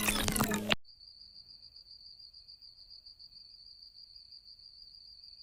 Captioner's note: crickets